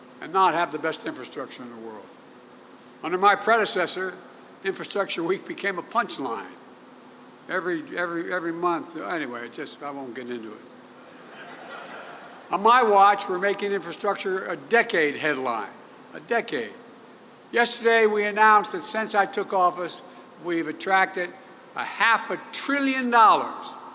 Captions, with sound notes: and not have the best infrastructure in the world? Under my predecessor, Infrastructure Week became a punchline. Every -- every -- every month -- anyway. It's just -- I won't get into it. (Laughter.) On my watch, we're making infrastructure a decade headline. A decade. Yesterday, we announced that since I took office, we have attracted a half a trillion dollars --